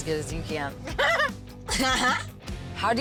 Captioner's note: laughing